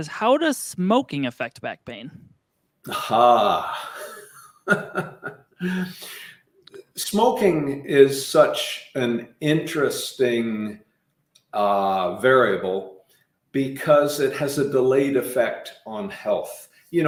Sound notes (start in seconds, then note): 2.9 laughing